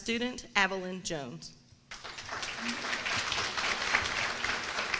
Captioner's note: applause